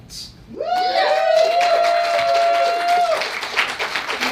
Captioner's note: audience cheers